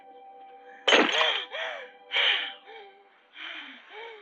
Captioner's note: glass breaking; breathing heavily